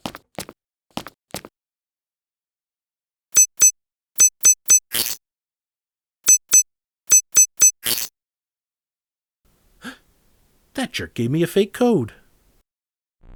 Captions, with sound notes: [gasp] That jerk gave me a fake code.